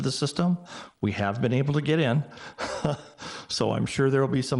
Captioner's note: chuckles